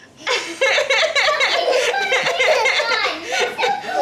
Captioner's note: laughs